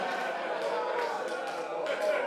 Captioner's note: laughter